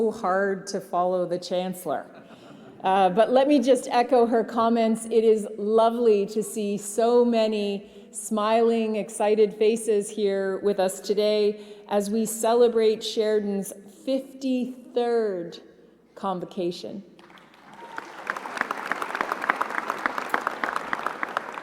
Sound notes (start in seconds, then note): 17.2 applause